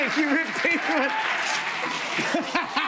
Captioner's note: cheers and applause; laughter